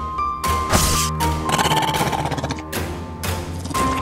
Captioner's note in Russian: рык